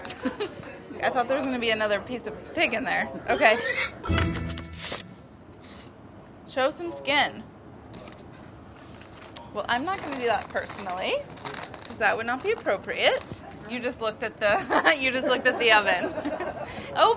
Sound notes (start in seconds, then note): 0.0 laughs; 3.3 pig squealing; 4.0 dramatic music; 14.2 laughs